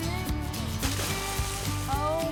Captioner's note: splash